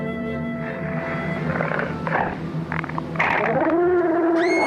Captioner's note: snarling